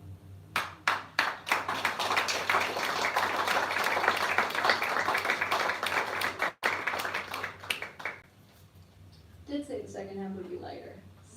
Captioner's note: applause